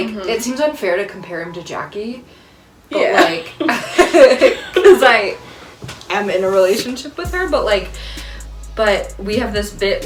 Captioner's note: laughter